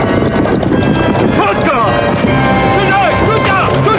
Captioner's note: men speaking native language